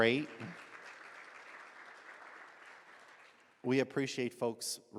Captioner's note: audience applauds